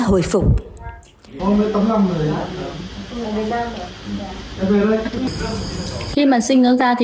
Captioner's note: people chatting